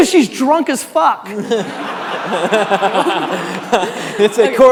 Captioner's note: audience laughing